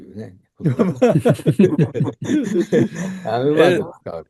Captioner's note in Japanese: 笑い